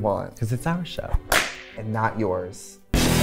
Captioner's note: claps